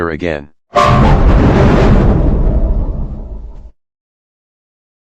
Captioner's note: Giga Anti Killer Windows XP Shutdown Sound